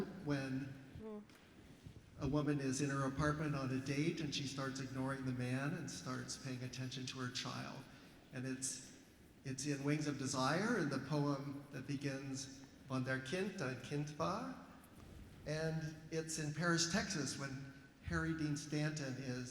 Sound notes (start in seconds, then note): 12.9 speaking german